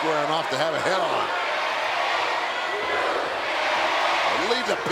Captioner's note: crowd chanting